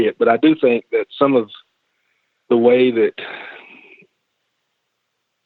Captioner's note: sighs